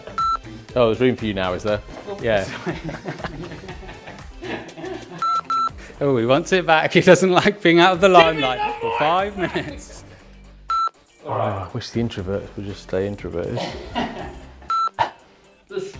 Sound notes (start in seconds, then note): 0.1 video beeps; 2.3 laughs; 5.2 video beeps; 10.7 video beeps; 13.6 laughs; 14.7 video beeps